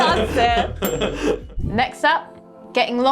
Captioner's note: chuckling